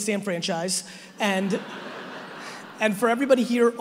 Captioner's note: audience laughing